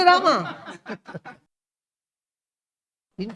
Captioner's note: laughs